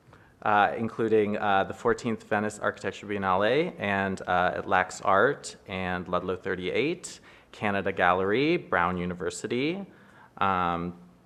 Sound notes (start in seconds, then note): none